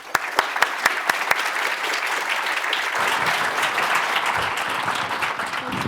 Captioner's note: applause